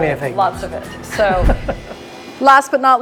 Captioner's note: laughs; machine revving